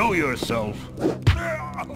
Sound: bonk

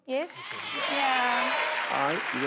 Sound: cheering

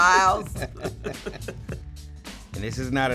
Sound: chuckling

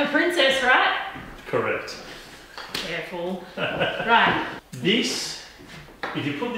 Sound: laughing

